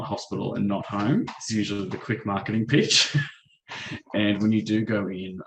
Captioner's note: chuckles